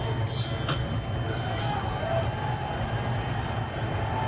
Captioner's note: bell ringing; crowd cheering